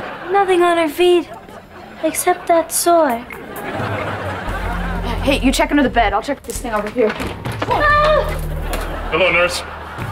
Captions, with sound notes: Nothing on her feet. Except that sore. [laughing] Hey, you check under the bed, I'll check this thing over here. [gasping] Hello, nurse.